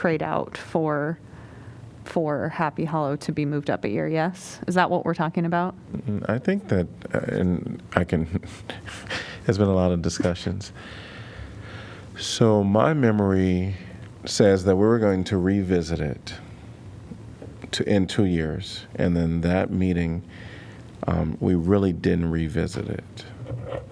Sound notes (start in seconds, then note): 8.3 laughter